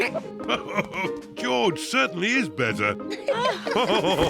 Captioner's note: giggles; laughs; all laughing